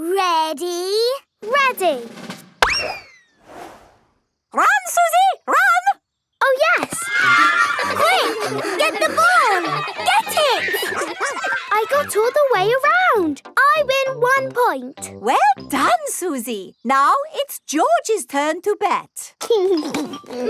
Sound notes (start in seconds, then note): 2.6 bang; 6.7 excited cheering